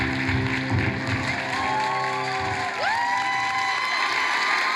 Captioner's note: cheers and applause